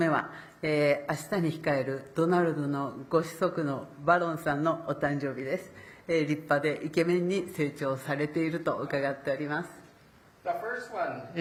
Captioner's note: speaking Japanese